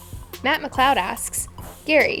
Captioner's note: voiceover